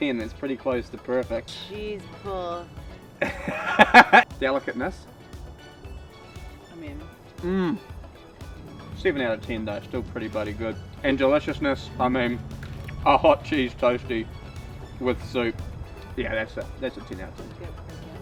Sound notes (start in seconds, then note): 3.2 laughs